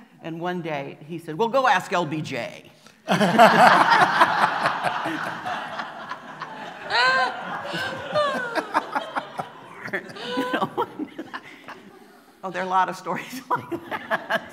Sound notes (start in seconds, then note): 3.0 laughter; 13.9 laughing